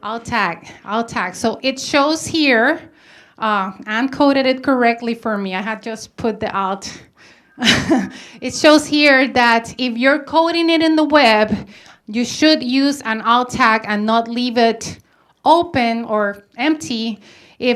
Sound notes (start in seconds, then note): 7.6 laughs